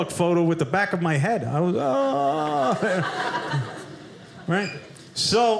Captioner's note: audience laughing